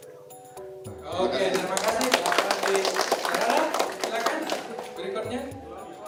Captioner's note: clapping